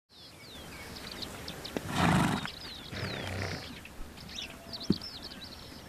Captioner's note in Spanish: SOUND Village ruido